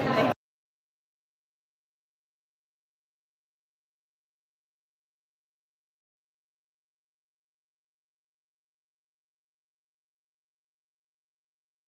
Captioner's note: no audio